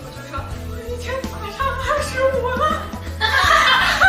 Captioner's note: crying